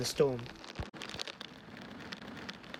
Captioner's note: rain falling